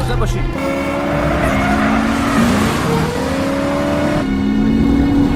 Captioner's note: tire screeching, horn honking